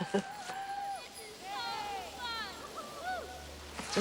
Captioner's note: boys yelling